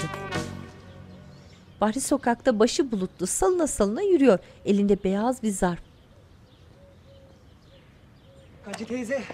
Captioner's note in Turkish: Kuş cıvıltısı sesleri